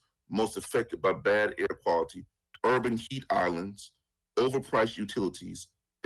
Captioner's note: ~interference~